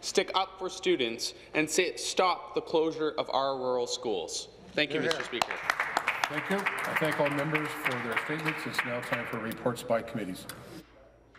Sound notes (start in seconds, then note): 9.0 some Applause